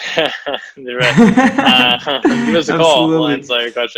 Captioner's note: laughs